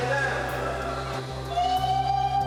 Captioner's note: shouting